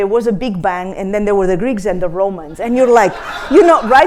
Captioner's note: laughter